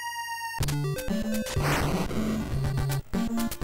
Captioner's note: fwoosh